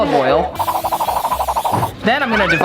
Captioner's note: olive oil can hisses